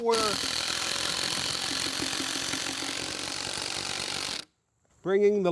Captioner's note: drilling Noise